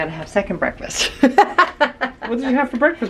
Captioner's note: laughs